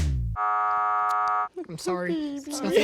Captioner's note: buzzer resounds